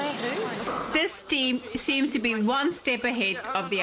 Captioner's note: narrating